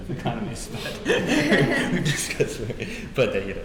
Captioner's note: laughing